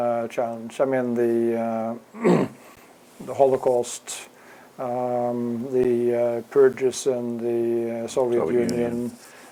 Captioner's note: cough